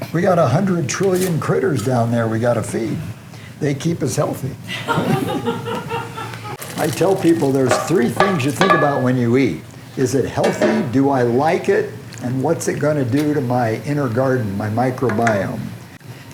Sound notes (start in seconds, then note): 4.6 laughter